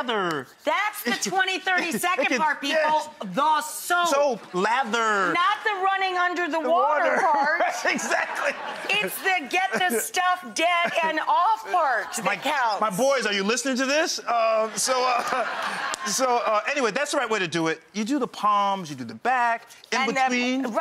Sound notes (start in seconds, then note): 7.1 crowd laughing; 7.2 laughs